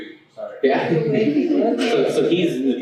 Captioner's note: laughter